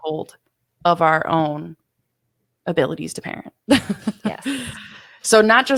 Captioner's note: laughs